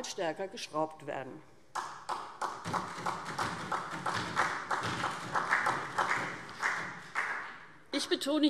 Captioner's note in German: Beifall SPD